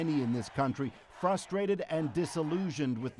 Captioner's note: applause